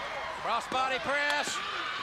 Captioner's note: crowd cheering